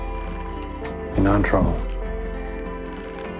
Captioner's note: voiceover